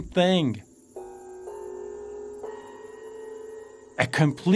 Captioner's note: birds chirping; gongs